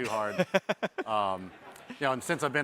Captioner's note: chuckles